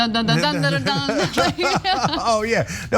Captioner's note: laugh